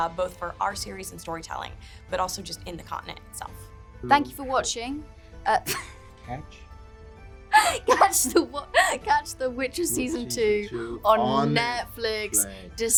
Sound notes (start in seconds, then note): 7.5 laughs